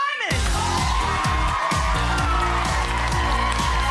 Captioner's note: cheering; upbeat music